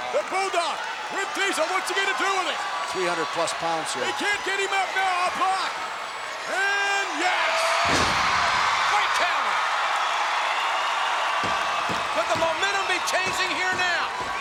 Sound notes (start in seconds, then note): 7.9 Bulldog thuds; 9.6 crowd cheering